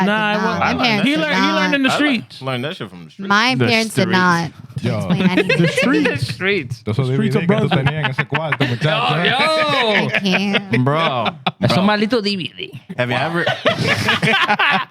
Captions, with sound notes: Nah, I learned that shit from the streets. I learned that shit from the streets. My parents did not. (Laughing) The streets. The streets. (Speaking In Foreign Language) Oh, no. I can't. Bro. (Speaking In Foreign Language) Have you ever--